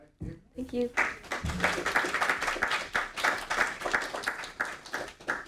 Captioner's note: audience applauding